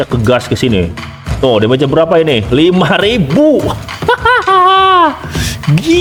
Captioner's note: laughs